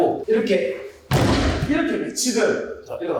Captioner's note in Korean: 쾅!